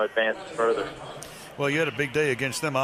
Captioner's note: stadium announcements